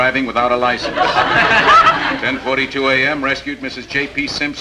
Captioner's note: audience laughing